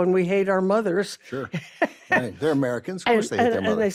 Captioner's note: carol laughs